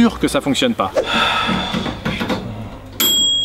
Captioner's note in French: Soupir